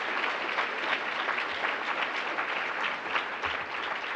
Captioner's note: applause